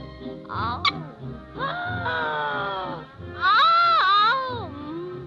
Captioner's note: gasping